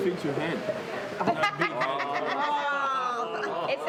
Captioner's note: laughing